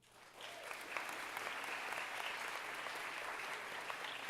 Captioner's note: audience applauding